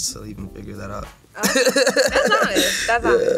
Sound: laughs

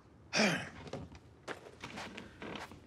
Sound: grunts

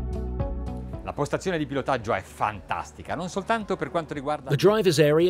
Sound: speaking Italian

